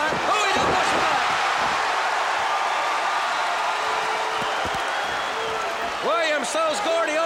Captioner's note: applause